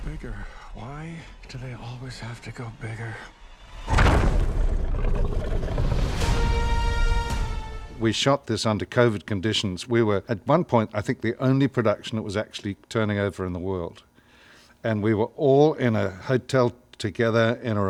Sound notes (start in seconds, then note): 4.4 dinosaur growls; 5.8 grandiose music